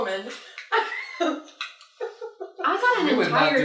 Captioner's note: laughter